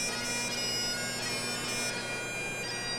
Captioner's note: none